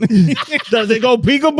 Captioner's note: all Laughing